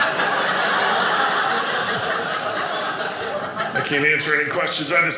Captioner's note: audience laughing